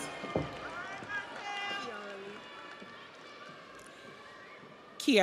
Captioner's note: audience applauds; audience cheers